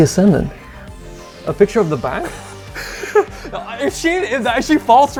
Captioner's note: laughing